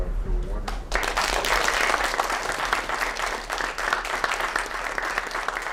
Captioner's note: applause